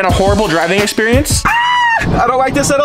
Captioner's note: screams